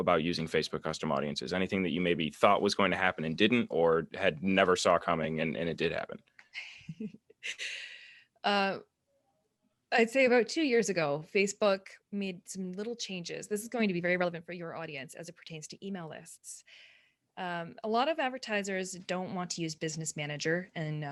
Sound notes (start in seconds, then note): 6.6 soft giggle